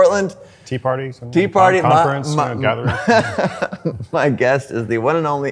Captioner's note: laughs